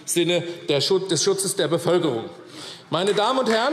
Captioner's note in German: Beifall AfD